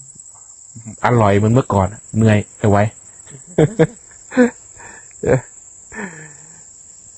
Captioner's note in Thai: เสียงหัวเราะ